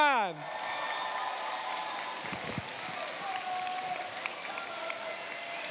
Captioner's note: cheers, applause